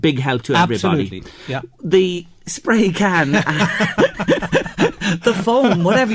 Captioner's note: chuckle by both